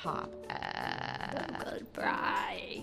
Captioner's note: crackles voice